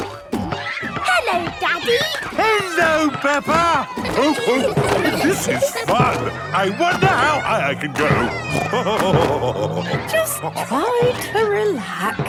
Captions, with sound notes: - Hello, Daddy. - Hello, Peppa! (laughing) This is fun. I wonder how high I can go. (snorting and laughing) - Just try to relax.